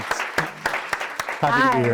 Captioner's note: audience applauding